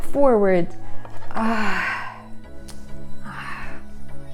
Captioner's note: sighing